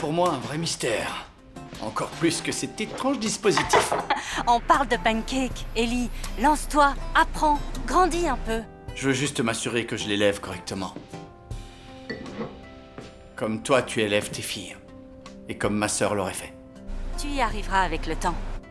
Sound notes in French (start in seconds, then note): 3.6 rires